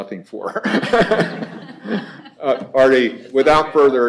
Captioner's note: laughter